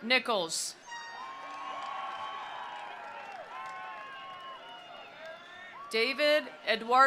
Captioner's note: attendees cheering; attendees applauding